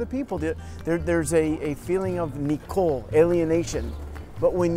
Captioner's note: in Hebrew